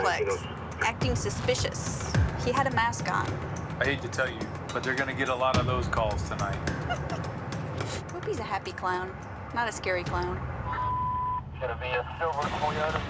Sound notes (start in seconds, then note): 6.7 laughs